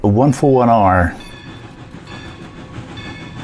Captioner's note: bells and steam locomotive